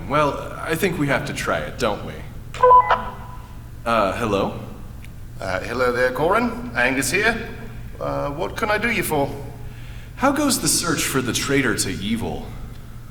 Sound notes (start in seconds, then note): 2.5 blip